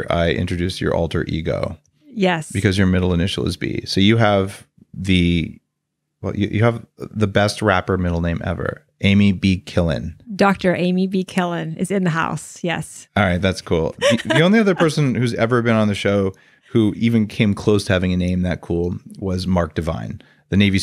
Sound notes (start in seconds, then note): 13.2 laughs